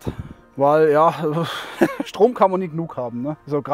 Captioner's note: laughs